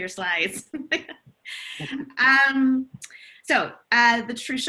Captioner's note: laughing